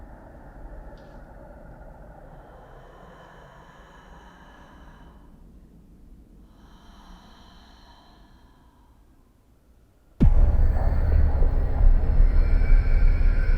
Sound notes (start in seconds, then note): 3.4 creature breathing heavily; 10.2 ominous music